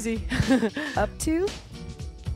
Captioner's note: laughs